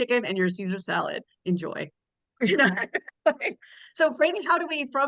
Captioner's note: laughs